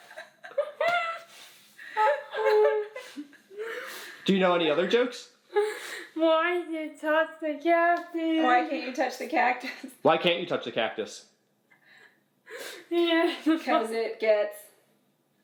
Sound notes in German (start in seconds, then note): 1.8 und Mama kichern